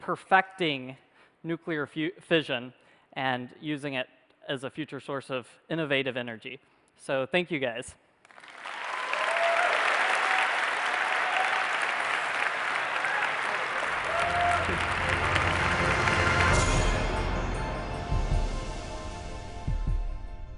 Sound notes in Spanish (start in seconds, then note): 8.2 Aplausos